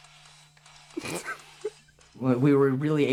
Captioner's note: camera person laughs